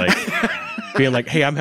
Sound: laughing

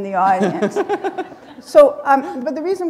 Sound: laughter

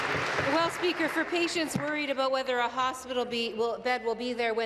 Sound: applause

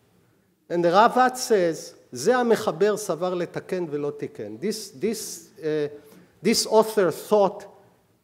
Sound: speaking hebrew

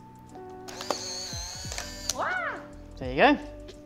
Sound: camera grinding

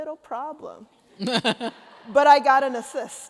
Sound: laughter

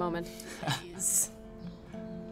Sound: chuckles

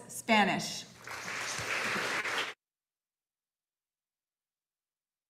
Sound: audience applauding

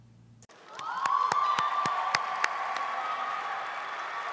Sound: audience applauding

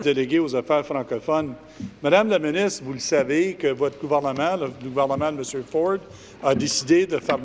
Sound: speaking in French

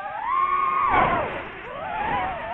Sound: something loud and abrupt; drone noises

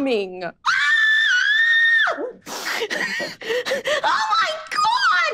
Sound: May screaming

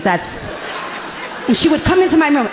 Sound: audience laughing gently

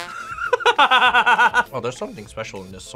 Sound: sad trombone music; both laugh

